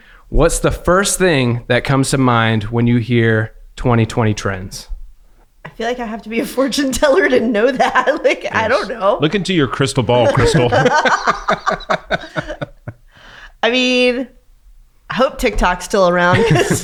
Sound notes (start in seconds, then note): 9.4 laughing; 11.6 everyone laughs